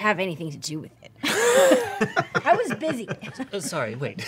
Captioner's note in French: rires